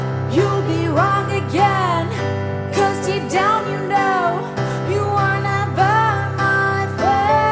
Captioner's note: none